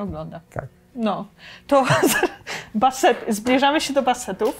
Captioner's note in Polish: śmiech